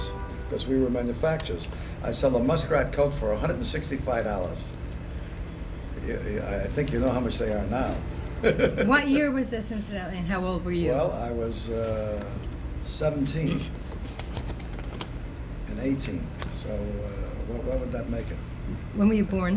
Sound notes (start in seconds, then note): 8.3 laughs